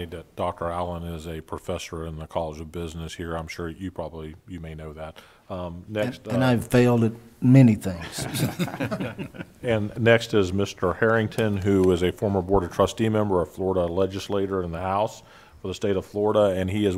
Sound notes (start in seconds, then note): 10.7 laughing